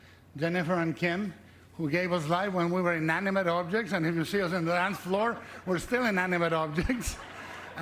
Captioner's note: applause